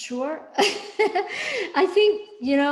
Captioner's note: laughs